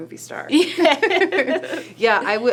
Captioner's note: laughing